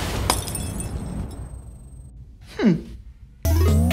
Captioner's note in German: Klirren